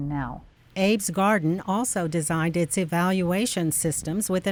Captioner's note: voiceover